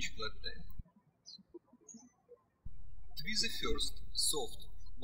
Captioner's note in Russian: птички щебечут